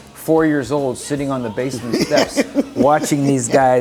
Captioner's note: laughs